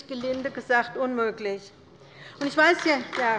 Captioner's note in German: Beifall bei der LINKEN